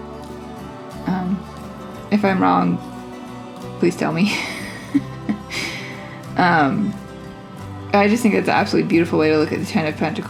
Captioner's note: laugh